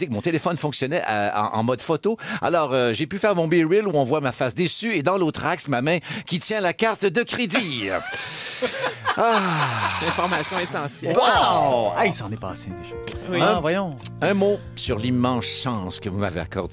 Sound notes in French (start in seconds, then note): 7.5 rires; 9.2 soupir de Pierre